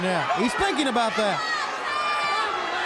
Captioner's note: crowd cheering